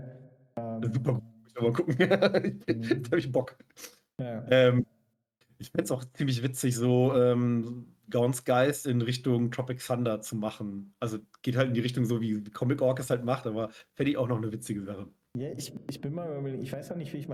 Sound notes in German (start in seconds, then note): 1.8 gelächter